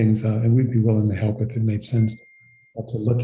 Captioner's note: device pinging